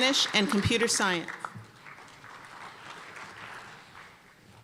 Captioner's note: applause